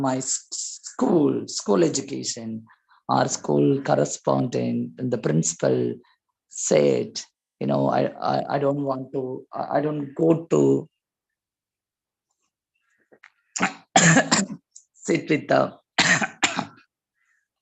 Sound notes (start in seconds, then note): 12.3 cough